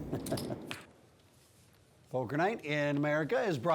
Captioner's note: laughs